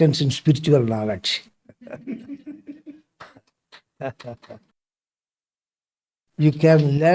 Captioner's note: claps; laughs